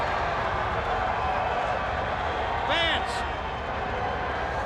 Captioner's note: crowd cheering